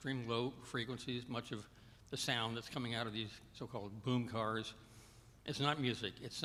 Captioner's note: none